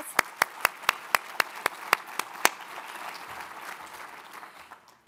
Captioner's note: applauding; audience applauds